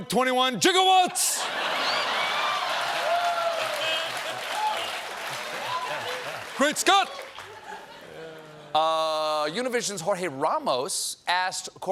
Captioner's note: laughter; applause